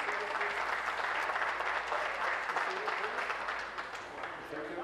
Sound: applause

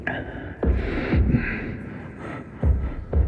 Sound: breathing difficulties

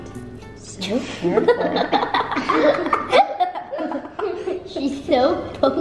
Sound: upbeat music; kids laughing in background

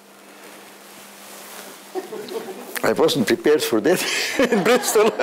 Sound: laughing

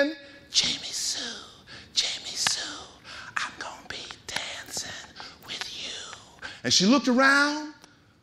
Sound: whispering

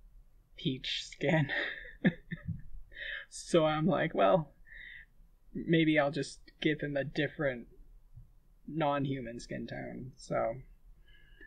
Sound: laughing

